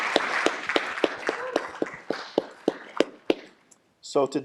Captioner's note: applause